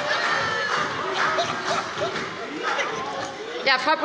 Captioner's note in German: Heiterkeit